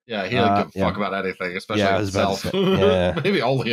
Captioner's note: chuckles